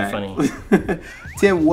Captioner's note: chuckles